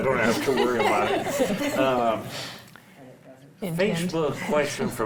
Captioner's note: panel laughs